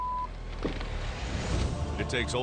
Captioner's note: beeping